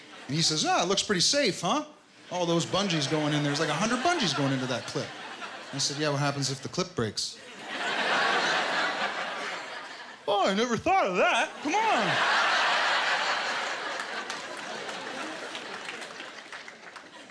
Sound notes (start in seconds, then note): 7.3 laughter; 13.2 applause